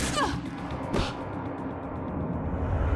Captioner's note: gun fires